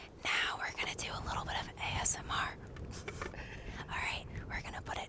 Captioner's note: whispering